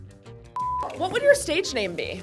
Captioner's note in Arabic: صافرة